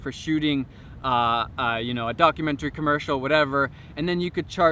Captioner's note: none